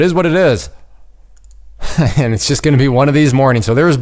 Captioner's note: chuckles